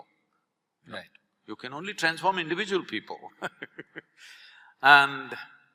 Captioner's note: laughs